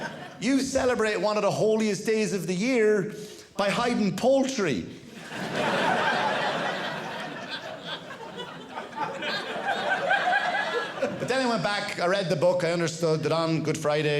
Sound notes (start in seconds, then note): 5.1 audience laughing